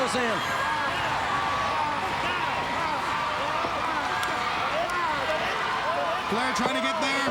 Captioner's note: crowd cheering